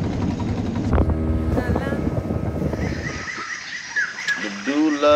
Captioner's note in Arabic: الرياح تهب عاليا